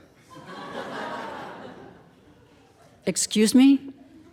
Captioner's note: audience laughing